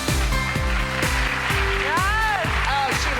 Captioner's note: crowd cheering